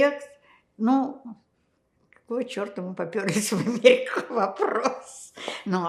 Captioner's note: laughing